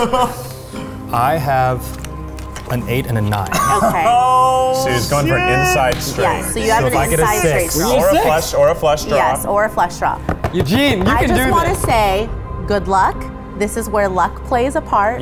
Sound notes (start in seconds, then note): 3.5 laughs